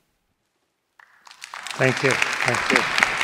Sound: audience applauding

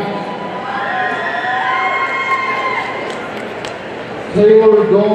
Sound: audience cheering

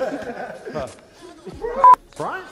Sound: all laughing; laughing

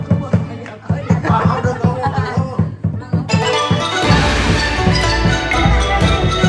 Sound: everybody laughed

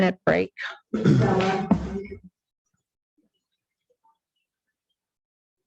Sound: crowd chattering

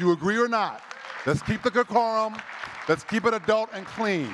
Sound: audience clapping

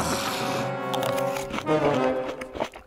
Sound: sighs; munching

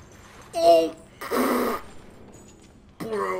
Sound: raspberry

